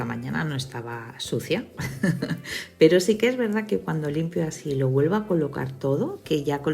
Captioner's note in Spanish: risas